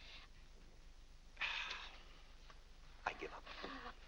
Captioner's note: exasperated sigh